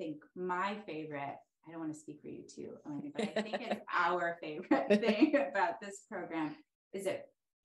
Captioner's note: laughs